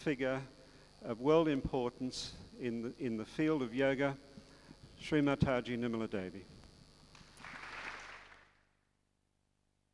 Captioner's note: clapping